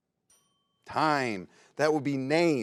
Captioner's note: bell rings